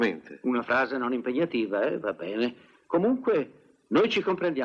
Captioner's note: imitates English accent